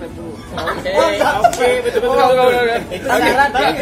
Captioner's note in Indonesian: laugh